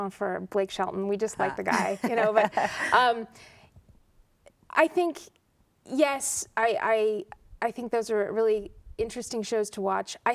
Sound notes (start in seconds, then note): 1.6 laughter